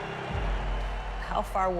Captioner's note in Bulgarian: Аплодисменти